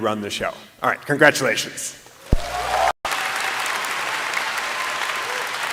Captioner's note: applause